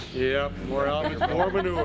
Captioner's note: kadın gülüyor